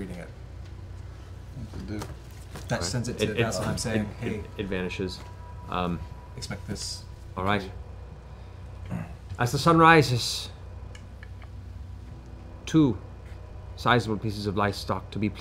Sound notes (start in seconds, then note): 3.7 poof